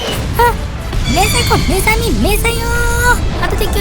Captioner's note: explosion